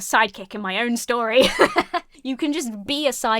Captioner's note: laughs